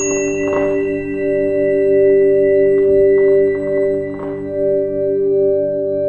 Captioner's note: bell dinging; soft expectant music